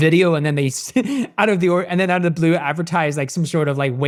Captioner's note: chuckles